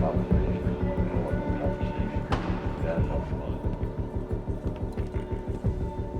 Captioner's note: chatting quietly